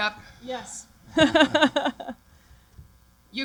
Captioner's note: laughter